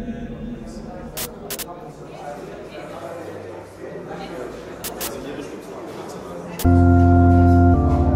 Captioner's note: crowd talking